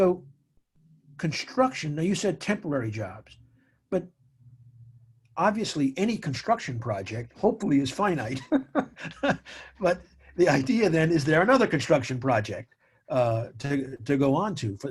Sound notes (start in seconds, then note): 8.1 chuckles